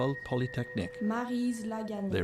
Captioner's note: speaking French